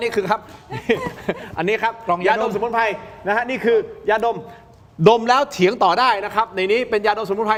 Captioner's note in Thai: เสียงหัวเราะ